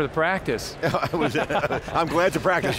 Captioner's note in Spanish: Risas